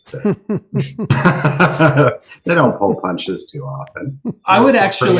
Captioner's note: laughs